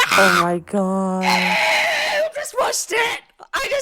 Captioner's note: screaming